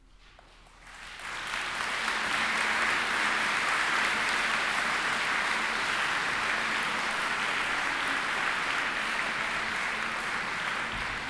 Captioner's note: applause